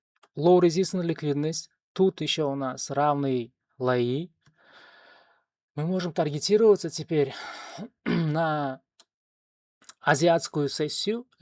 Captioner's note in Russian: откашливается